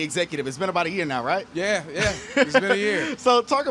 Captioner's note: chuckles